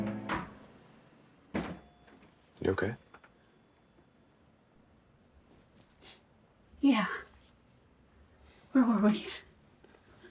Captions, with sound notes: (door opening and closing) - You okay? - Yeah. Where were we?